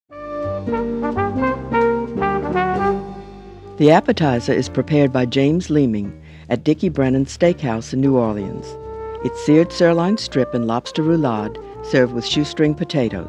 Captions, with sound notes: (jazz music) - [Voiceover] The appetizer is prepared by James Leeming, at Dickie Brennan's Steakhouse in New Orleans. It's seared sirloin strip in lobster roulade served with shoestring potatoes.